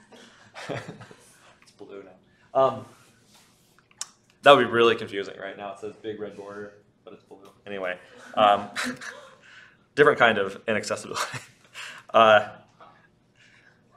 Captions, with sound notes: It's blue now. That would be really confusing right now. It says big red border but it's blue. Anyway, different kind of inaccessibility. (laughs)